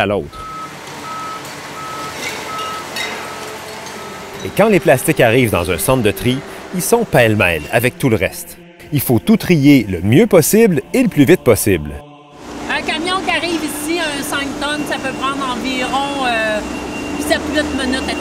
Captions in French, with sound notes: d'une ville à l'autre. (klaxon de camion) Et quand les plastiques arrivent dans un centre de tri, ils sont pêle-mêle avec tout le reste. il faut Il faut tout trier le mieux possible et le plus vite possible. - Un camion qui arrive ici, un 5 tonnes, ça peut environ 7-8 minutes à trier.